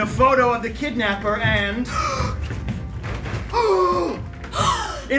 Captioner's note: everyone gasps